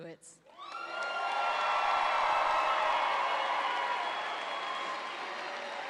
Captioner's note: audience applauds and cheers